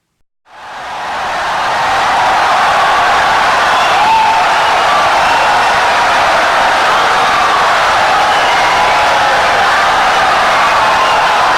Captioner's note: wild applause and cheering for 17 seconds